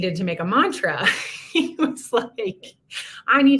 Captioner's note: laughter